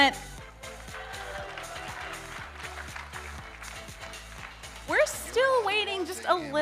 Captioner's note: audience applauding